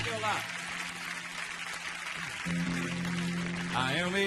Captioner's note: audience applauding